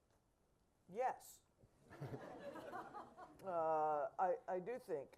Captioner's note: audience laughing